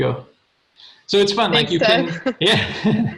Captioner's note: laughs